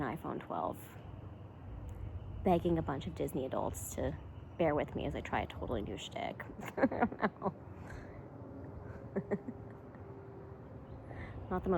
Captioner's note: laughs